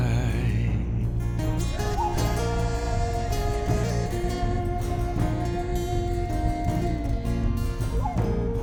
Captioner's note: tribe vocalizing